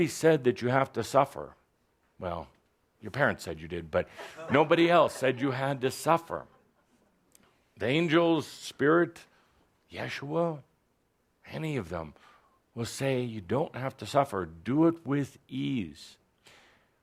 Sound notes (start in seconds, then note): 4.2 some laughter